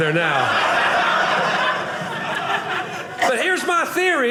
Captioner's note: audience laughing